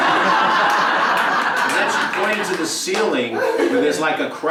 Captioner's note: laugh